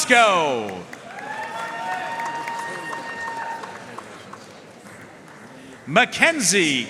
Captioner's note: audience cheering and applauding